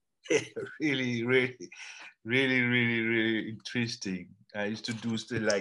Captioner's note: laughs